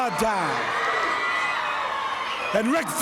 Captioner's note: audience clamoring